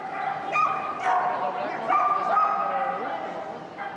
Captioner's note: dog barking